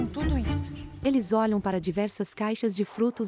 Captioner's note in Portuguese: Pássaros